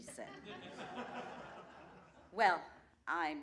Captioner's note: laughter